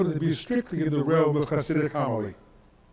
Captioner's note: speaks in foreign language